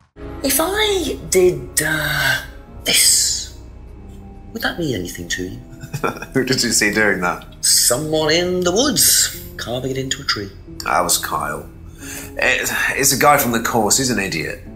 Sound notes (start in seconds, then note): 5.6 chuckles